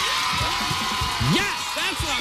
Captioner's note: cheers and applause